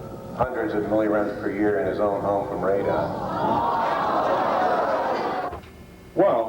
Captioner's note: crowd objects